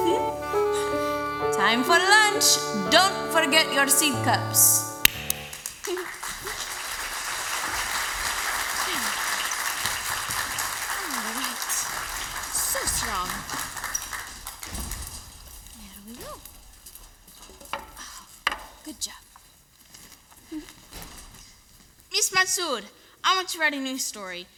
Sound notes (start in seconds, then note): 5.0 MUSIC out. Applause